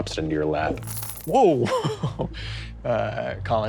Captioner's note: coins rattling